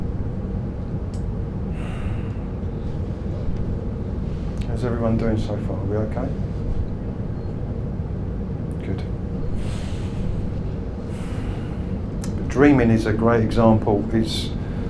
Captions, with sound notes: (sighs) How's everyone doing so far? Are we okay? Good. (sighs) But dreaming is a great example. It's...